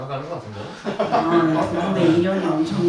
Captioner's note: laughs